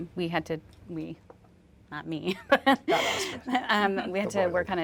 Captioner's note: laughs